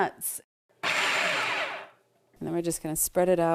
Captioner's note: food processor whirs